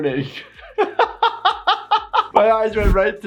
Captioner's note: laughing